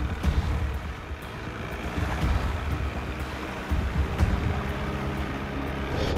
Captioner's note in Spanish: Sonido de la lancha